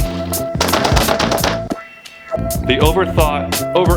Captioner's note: bangs